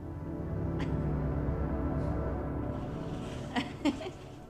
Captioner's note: piramid opening sound